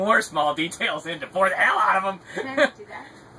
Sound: laughs

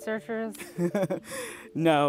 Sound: laughs

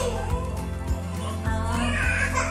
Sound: again baby crying

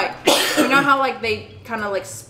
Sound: coughs

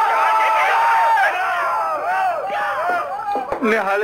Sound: shouting continues

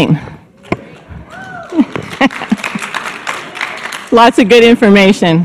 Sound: audience clapping and chattering

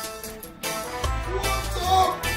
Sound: shouting

